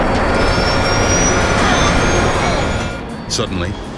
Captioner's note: plane engine roars